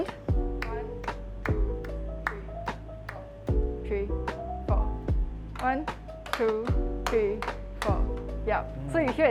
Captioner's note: claps